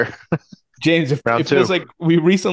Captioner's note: laughs